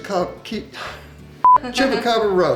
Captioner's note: beep